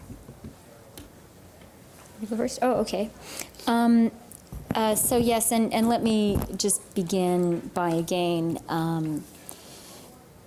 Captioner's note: speaking french